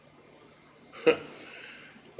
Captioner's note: chuckle